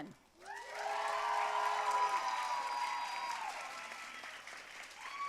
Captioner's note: audience cheering and applauding